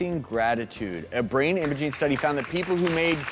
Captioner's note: audience applauds